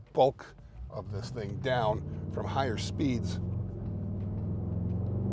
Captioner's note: revs